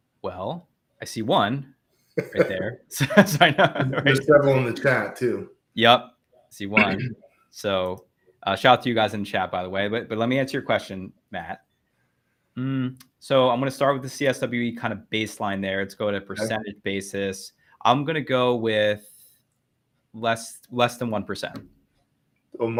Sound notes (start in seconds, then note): 2.9 laughing